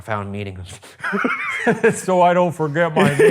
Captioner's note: laughing